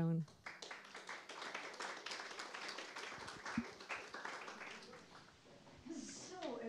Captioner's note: applause